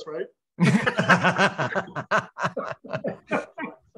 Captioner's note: all laugh